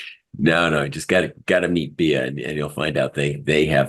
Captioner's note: laugh